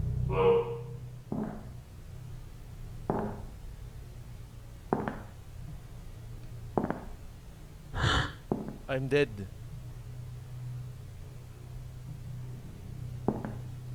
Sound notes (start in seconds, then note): 1.3 footstep; 3.1 footstep; 4.9 significantly close footstep; 6.8 footstep; 7.9 exhale; 13.2 footsteps retreating